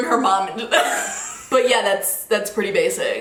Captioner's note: laughing